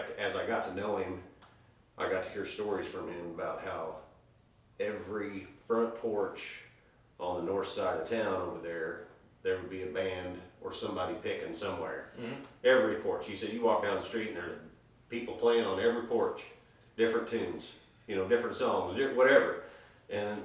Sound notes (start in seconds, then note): none